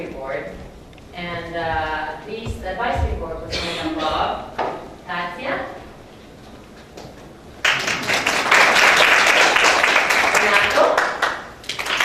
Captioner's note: applauses